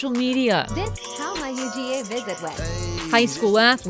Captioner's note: TikTok Automated Voice